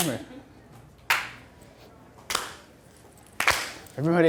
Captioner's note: clapping